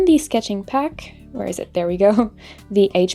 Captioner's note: laughs